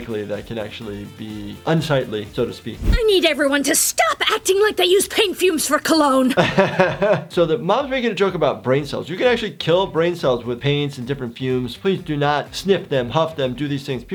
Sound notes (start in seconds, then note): 6.3 laughing